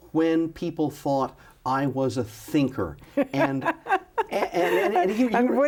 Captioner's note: laughs